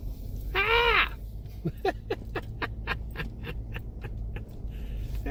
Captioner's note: laughing